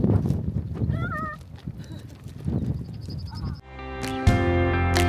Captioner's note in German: lacht